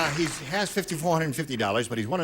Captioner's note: applause